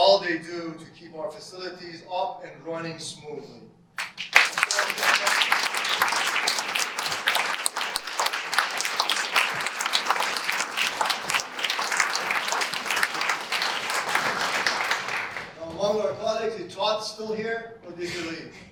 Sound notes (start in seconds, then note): 7.5 audience applause